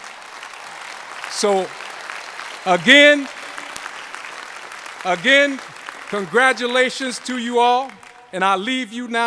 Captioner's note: applause